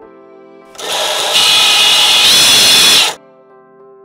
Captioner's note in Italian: rumore del motore